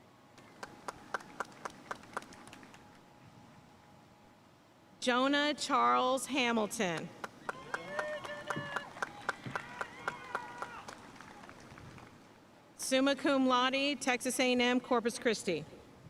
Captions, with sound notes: (audience cheering and applauding) Jonah Charles Hamilton. (audience cheering and applauding) Summa Cum Laude, Texas A&M Corpus Christi.